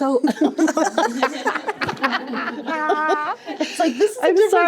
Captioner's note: laughter